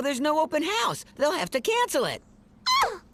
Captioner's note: squeaks